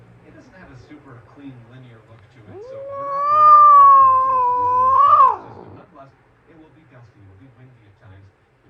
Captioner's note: Caprice meows in anger